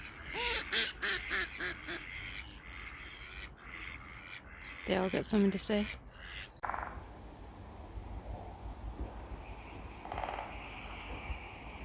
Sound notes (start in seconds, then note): 0.0 duck choir; 6.6 woodpecker noise